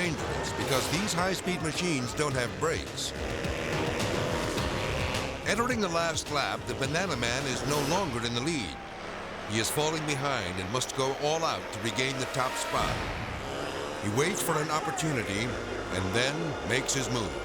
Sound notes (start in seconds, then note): 3.2 bikes rumbling